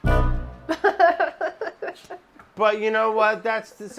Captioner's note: laughing